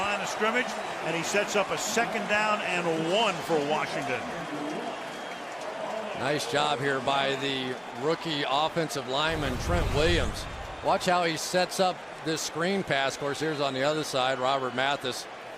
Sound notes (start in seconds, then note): 4.7 pa announcement